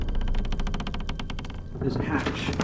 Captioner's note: booms; creaking